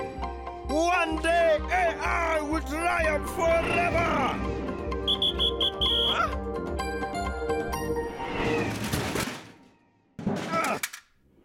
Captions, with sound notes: - One day AI will triumph forever! (whistle blowing) Ah! (grunts)